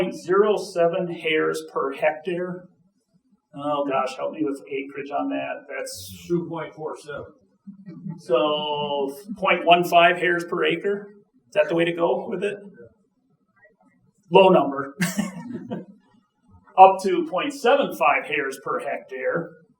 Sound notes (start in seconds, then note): 14.4 chuckling